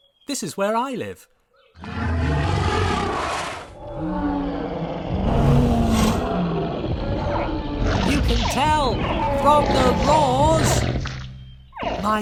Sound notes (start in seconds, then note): 4.5 dinosaurs roar, growl, and squeak